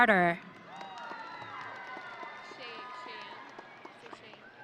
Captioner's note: audience cheering